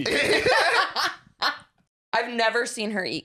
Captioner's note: laughing